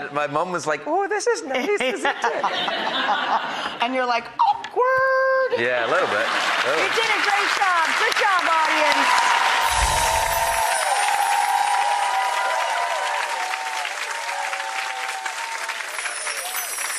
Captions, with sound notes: My mum was like, "Ooh, this is nice, isn't it." (laughter) And you're like, "Awkward." Yeah, a little bit. You did a great job, good job audience.